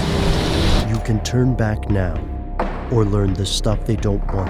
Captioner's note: voiceover